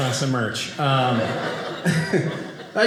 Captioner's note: audience laughing